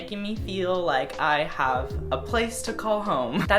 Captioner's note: a small laugh